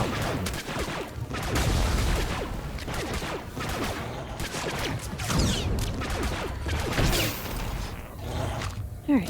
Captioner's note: gunfire